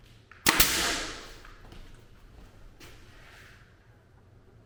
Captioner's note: gun nailing brads